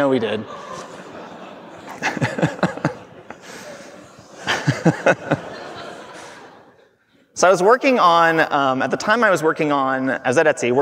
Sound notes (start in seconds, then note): 0.2 everyone laughing